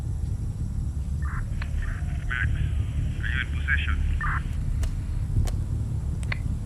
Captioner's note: radio clicks